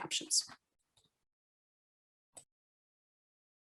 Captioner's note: speaking foreign language